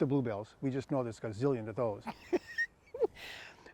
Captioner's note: laughs